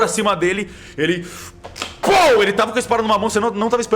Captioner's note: pow